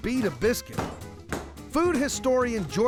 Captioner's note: pounding sound